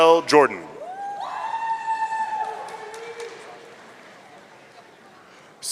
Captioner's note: audience cheering